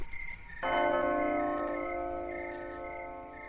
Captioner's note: chime of bells